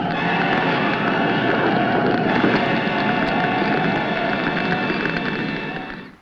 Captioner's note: flames crackling; flames roaring